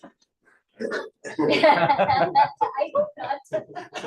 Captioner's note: laughter